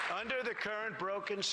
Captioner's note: applause